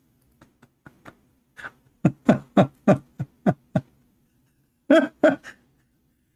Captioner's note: Ketawa